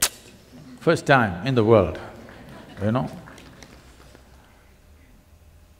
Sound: laughs

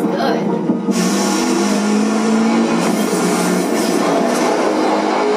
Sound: car engine roaring

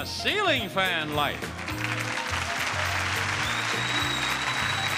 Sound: audience applauding

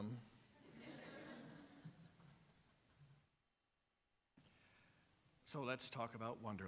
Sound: laughter from audience

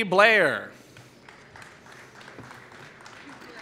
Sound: applause

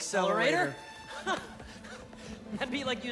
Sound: laugh

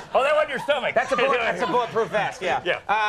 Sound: audience laughs

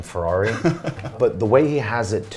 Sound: laughs

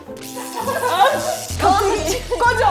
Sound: electric spark

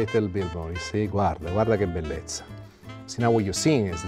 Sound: speaking Italian

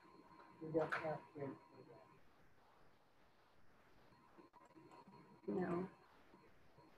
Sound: student speaking faintly

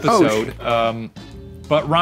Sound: none

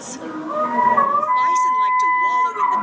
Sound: recording of bison bugling

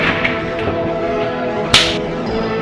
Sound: crack

